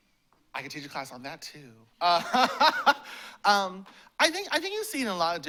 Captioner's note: laughs